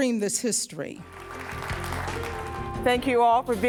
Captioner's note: clapping